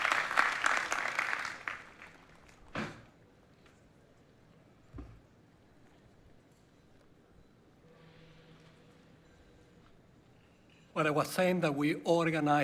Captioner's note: applause